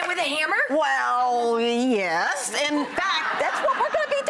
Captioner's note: audience laughs